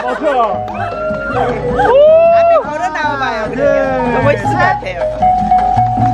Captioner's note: screaming in ecstasy